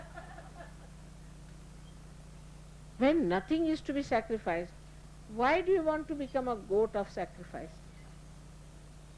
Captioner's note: laughter